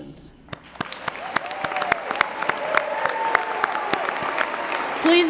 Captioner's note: cheering & Applause